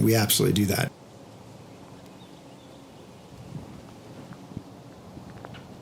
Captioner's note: no dialog. wind noise